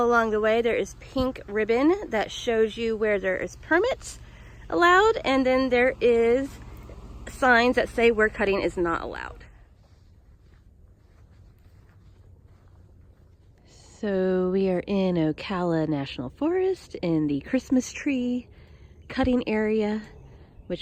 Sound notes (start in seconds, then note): 10.6 earth crunching